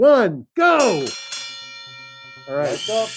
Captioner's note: bell ringing